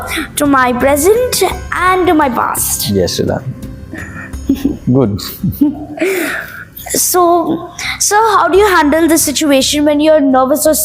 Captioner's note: laugh